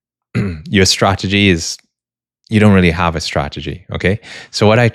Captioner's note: clears throat